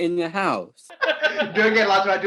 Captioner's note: both producers laughing